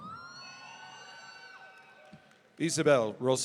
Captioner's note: audience cheering